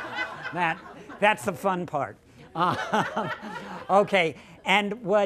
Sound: laughter

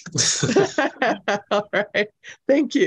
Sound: laughter

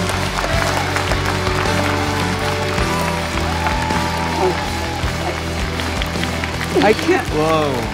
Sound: applause

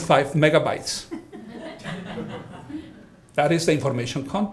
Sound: audience laughing

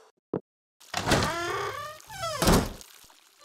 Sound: door squeaking and closing sounds

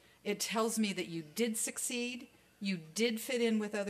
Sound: none

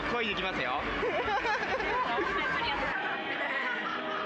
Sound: loudly giggling

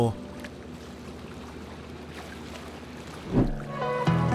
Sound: water lapping; upbeat music

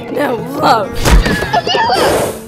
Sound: hitting the ground

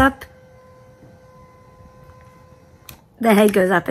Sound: bed adjusting

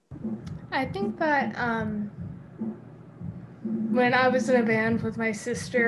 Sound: none

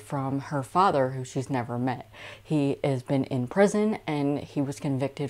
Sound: none

